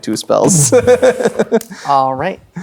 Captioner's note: laughing